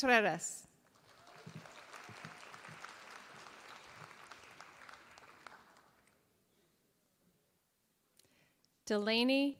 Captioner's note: applause